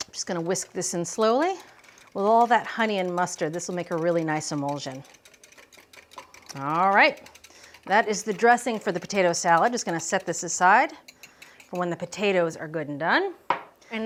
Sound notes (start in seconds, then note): 5.3 whisk clicking